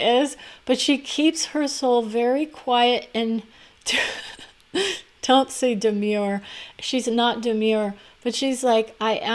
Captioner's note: laugh